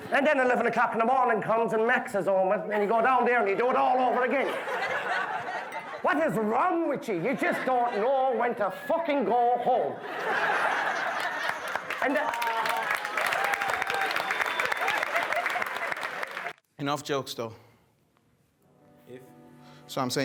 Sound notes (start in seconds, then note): 10.2 guests laughing; 11.1 guests clapping